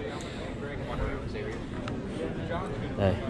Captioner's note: people talking